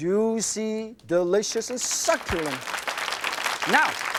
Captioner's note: crowd applauds